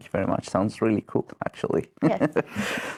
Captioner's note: laughter